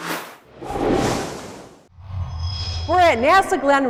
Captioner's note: sound Effects